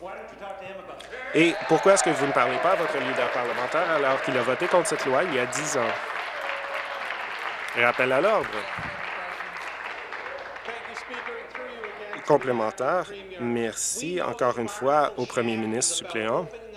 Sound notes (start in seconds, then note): 6.1 applause